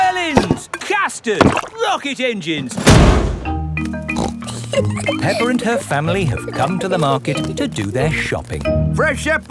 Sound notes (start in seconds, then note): 4.2 snorts and giggles